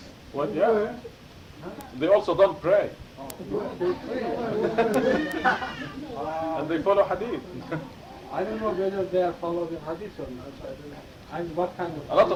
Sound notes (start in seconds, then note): 3.9 laughter